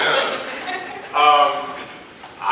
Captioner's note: laughing